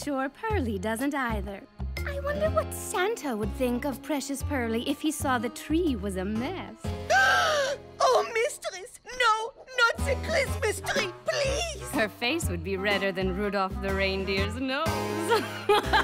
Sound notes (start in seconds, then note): 5.0 gasping; 13.5 evil laughter